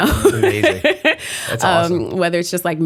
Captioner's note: laughter